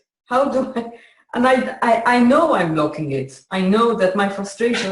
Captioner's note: laughs